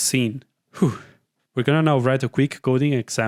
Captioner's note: whew